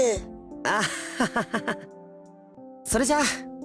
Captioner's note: awkward laugh